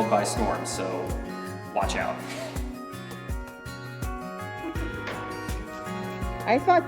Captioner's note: smooth acoustic guitar music; laughs